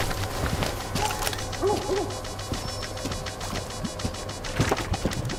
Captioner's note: meter beeping